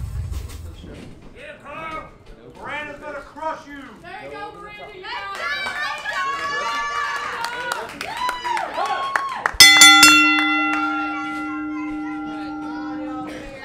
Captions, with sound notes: - Miranda's gonna crush you. - There you go, Miranda (crowd cheering) (bell dings)